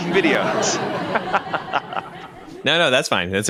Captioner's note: laugh track